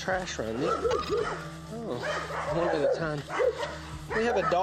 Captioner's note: dogs barking